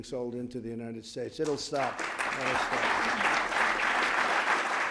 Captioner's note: applause